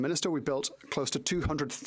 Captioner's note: speaking French